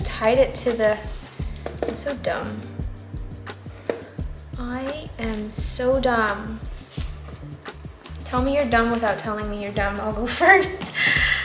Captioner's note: laughs